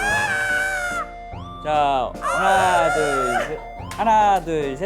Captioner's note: chim siren